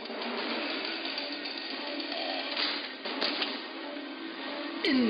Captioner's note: chain saw buzzing